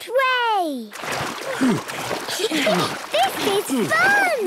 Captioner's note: snorts, giggles; panting